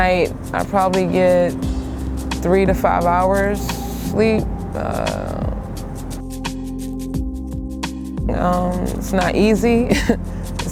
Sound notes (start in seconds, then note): 5.0 humming; 9.9 chuckling